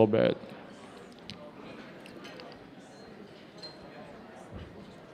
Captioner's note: attendees chatting